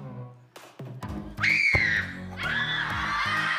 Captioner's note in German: Sie schreien